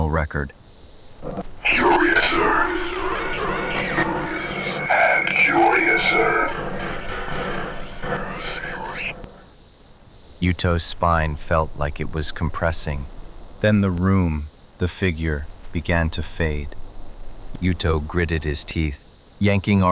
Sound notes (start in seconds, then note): 1.2 measured, rising dread; 6.7 warped, distorted, slow